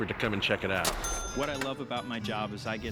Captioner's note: cash register chime